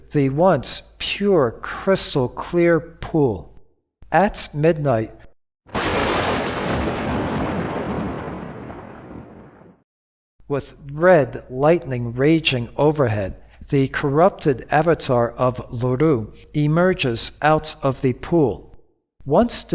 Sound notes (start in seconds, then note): 5.7 lightning